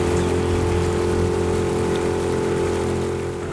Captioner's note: boat sounds